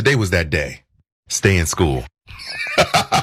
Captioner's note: laugh